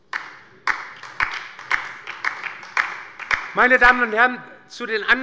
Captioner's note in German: Beifall bei der LINKEN